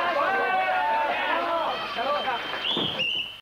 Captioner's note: applause